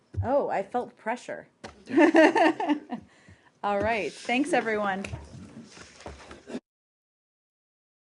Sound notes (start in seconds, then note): 3.4 laughter